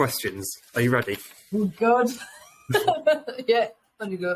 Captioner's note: laughing